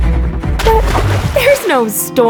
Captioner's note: splash